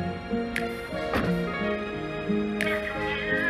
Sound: car doors open

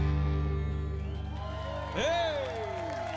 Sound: crowd cheers

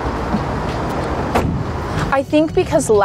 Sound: car door slamming

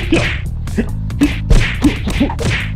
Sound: smack Smack Smack Smack Smack; smack Smack

